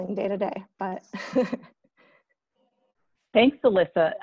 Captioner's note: laughs